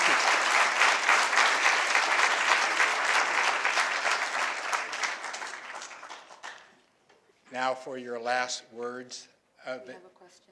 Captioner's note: applause